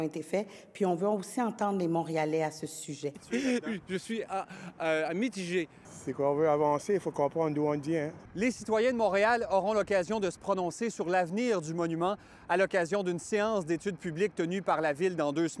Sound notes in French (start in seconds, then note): 3.2 rires